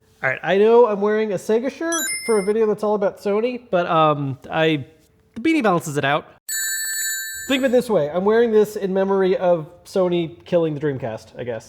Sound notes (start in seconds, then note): 6.5 bell ringing